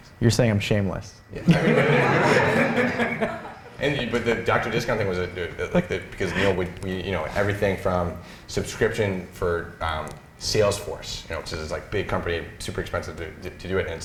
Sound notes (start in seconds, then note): 1.4 laughter